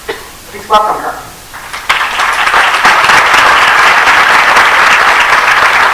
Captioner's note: applause